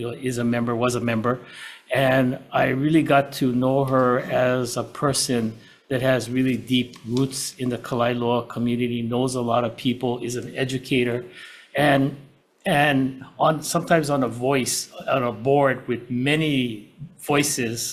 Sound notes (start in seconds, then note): none